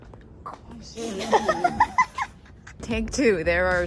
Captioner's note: laughing